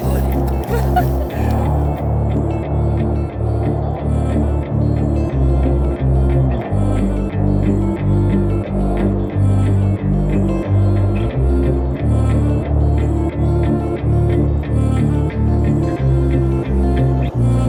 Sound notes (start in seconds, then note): 0.0 laughing